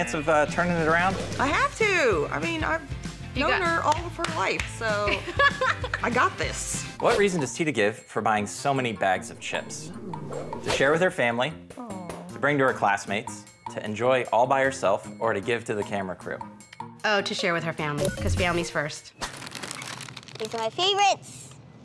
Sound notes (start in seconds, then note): 5.2 laughs